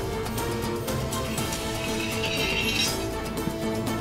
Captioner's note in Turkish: Kılıç çekme sesi